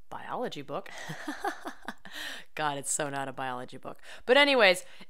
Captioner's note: laughter